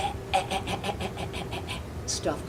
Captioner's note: staccato grunting